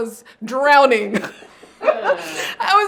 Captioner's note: everyone laughs